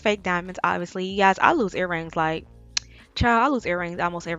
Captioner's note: smacks tongue